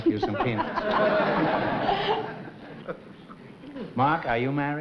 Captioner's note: laughter